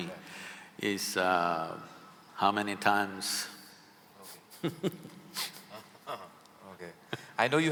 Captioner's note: both laugh